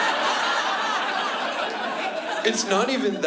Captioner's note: laughter